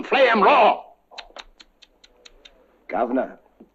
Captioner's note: tsk-tsk, tsk-tsk